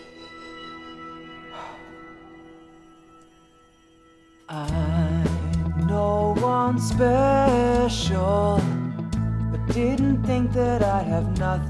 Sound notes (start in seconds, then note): 1.4 exhales